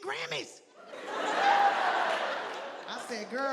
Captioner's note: audience laughing